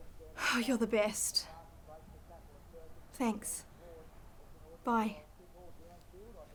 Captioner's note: exhales